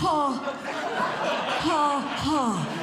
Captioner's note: audience Laughing